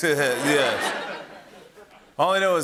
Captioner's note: laughter